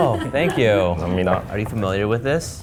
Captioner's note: server chuckles